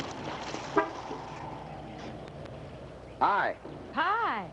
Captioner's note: car honks